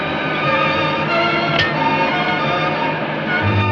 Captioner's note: switch clicks